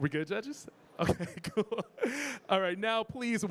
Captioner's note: chuckling